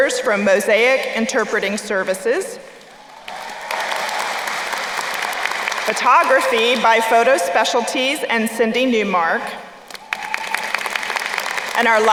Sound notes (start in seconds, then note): 2.8 crowd applauding; 9.8 crowd applauding